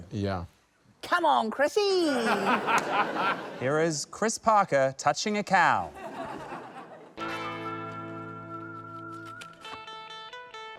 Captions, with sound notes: - Yeah. - Come on, Chrissie! - (LAUGHTER) - Here is Chris Parker touching a cow. - (LAUGHTER) - (WESTERN-MOVIE MUSIC)